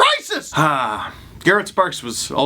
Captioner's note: deep frustrated sigh